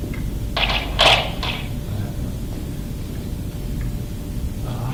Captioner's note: distorted rustling